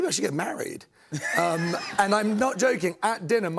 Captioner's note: laughter